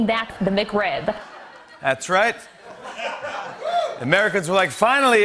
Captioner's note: laughter and cheers